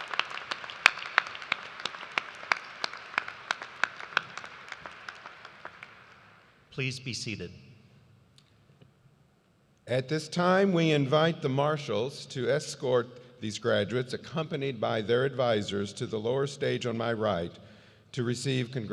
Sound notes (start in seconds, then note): 2.9 applause